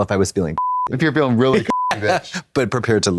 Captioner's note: beep